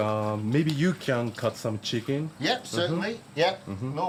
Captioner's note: chuckles